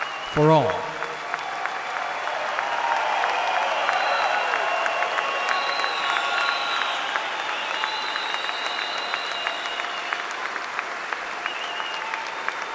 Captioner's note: applause